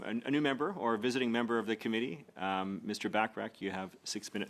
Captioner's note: speaking French